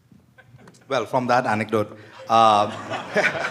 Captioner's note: laughter